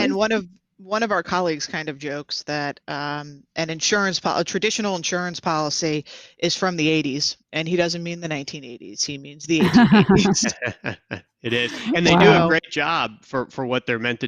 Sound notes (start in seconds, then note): 9.6 laughs